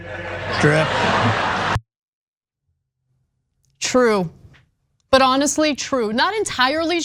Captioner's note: laugh